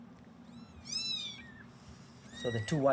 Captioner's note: kittens mewing